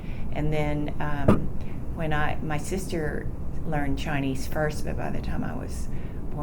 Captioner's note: banging sound